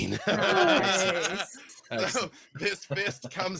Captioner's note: group chuckles